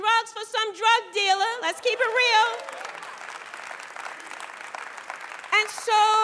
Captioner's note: applause